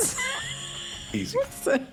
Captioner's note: laughs